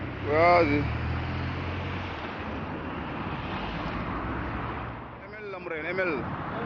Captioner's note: passerby speaks in foreign language